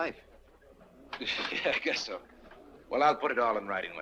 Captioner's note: chuckles